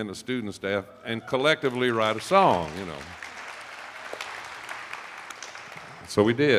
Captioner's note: attendees applauding